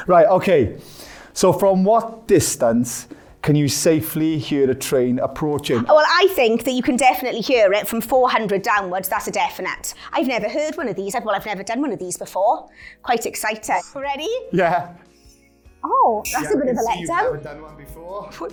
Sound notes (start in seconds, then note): none